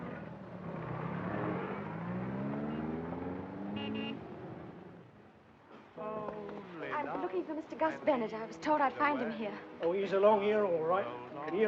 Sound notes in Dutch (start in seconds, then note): 3.6 claxon toeteren